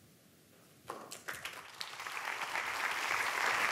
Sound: applause

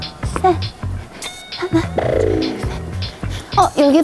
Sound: running

